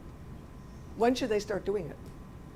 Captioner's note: voiceover